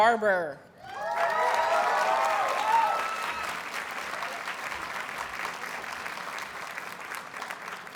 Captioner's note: audience cheers and applauds